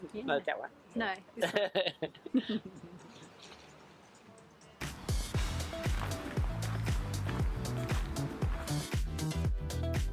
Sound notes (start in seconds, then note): 1.4 laughter; 4.8 music and feet crunching on rock path